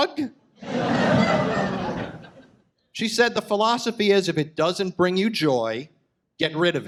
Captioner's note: audience laughs